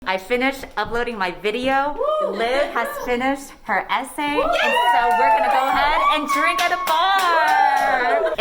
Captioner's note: cheers